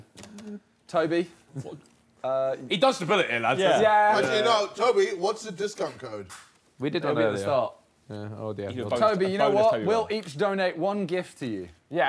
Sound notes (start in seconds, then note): 1.1 group chattering